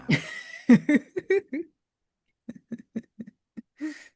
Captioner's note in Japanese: 笑い